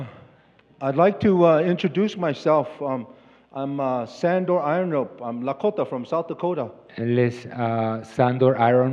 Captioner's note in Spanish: Expositor habla en inglés